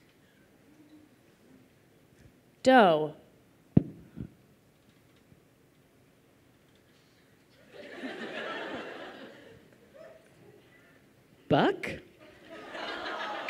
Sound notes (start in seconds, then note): 7.6 laughter